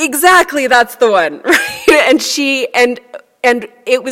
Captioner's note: laughs